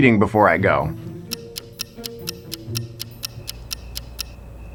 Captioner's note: clock ticking; crickets chirping